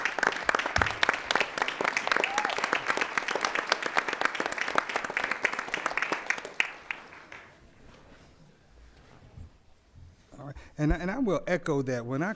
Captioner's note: applause